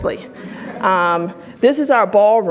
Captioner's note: audience laughs